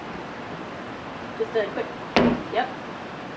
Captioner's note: thud